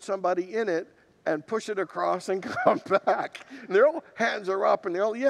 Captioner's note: laughs